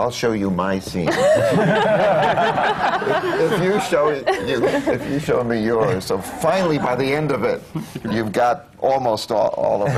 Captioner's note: laughter